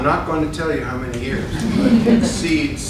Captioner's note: laughter